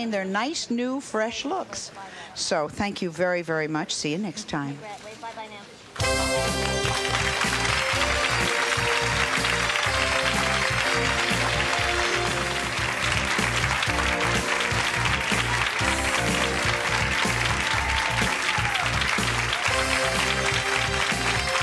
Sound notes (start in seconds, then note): 5.5 engaging music; 10.4 crowd applauds and cheers